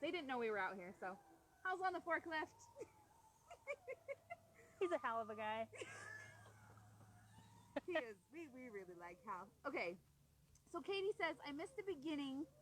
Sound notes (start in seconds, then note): 6.1 laughing